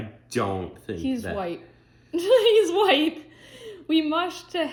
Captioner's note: laughs